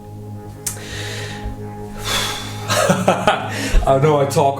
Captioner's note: deep breath and laughing